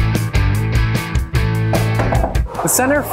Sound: knocking

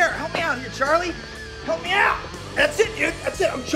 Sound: none

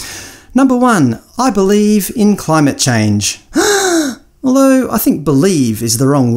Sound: audible gasp

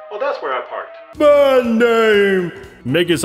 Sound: narrator , echoing

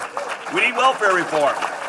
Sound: applause

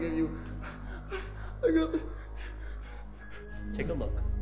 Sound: business Man whimpers

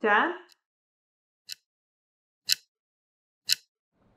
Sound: clock ticking

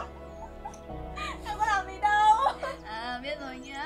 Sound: laugh

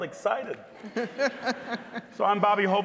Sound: scattered laughing

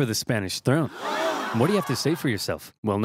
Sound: audience gasps

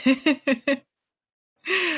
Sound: laughs

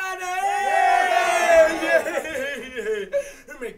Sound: kids cheer

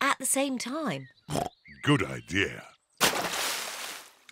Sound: oinks

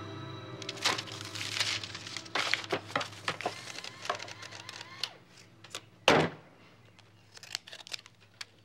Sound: calculator whirring

